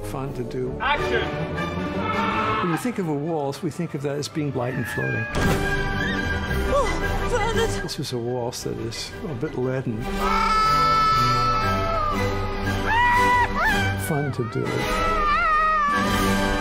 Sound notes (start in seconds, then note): 10.2 screaming